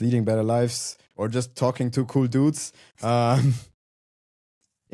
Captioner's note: chuckles